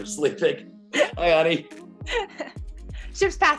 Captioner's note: laughs